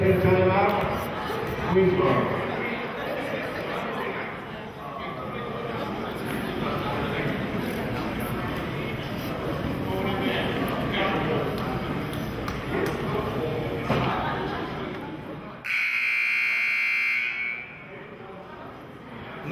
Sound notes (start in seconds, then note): 3.9 chattering; 15.6 buzzer sounding